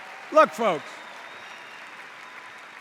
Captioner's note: applause